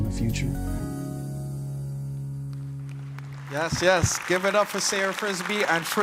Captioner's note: applause